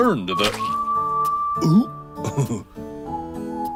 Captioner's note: laughs